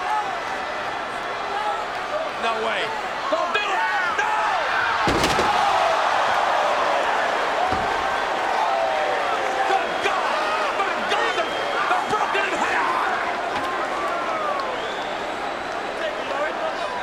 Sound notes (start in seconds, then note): 5.4 crowd exclaiming; 13.8 crowd chattering